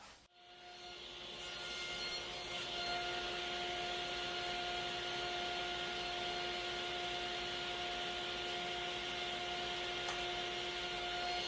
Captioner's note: sawing